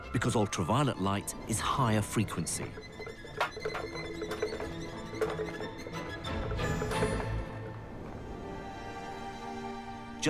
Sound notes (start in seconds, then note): 2.9 balls and cans clatter; 8.3 soft dramatic music